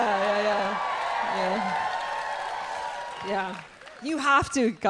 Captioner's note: audience cheering and applauding